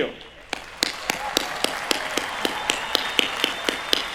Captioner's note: cheering